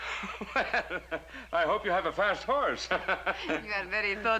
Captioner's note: chuckling